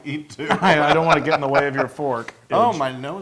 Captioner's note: laugh